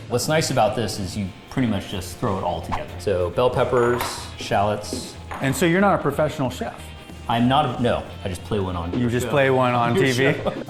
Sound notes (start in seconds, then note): 2.6 air whooshing